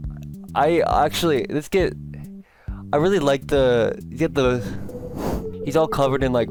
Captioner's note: extra long stammering